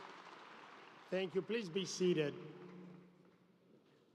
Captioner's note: applause